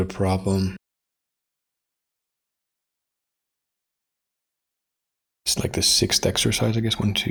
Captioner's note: blank Audio